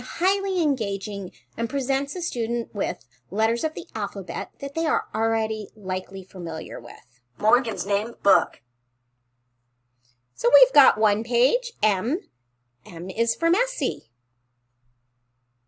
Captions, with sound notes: highly engaging and presents a student with letters of the alphabet that they are already likely familiar with. (computer voice says) Morgan's name book. So we've got one page M, M is for messy.